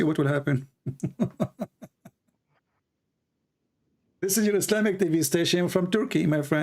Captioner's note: Ketawa